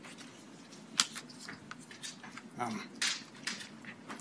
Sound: chalk clicks

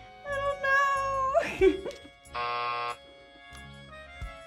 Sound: buzzer rings

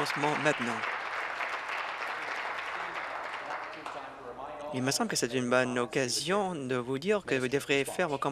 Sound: applause

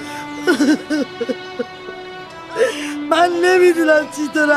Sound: crying

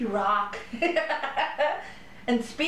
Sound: laughter

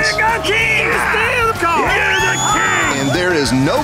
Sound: cheering

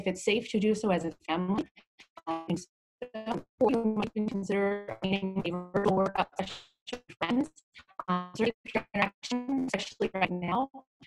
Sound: audio distortion

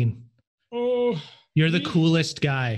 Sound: groans

